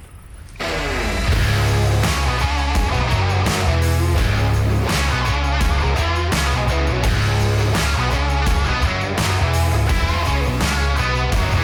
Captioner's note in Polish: Aplauz